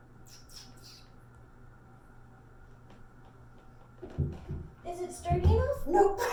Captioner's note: bird chirping; cat thumps